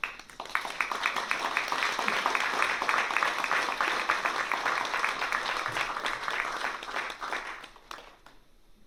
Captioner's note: applause